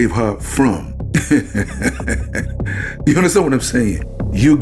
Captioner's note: laughing